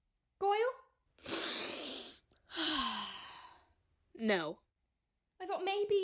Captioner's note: sniffs Draco